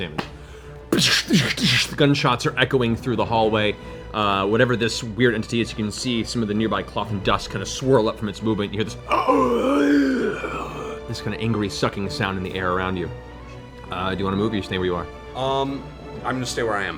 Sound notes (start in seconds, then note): 1.5 gunshots; 9.0 gasping sound